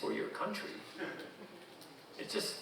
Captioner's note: audience chuckling